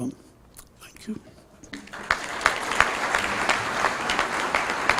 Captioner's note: applause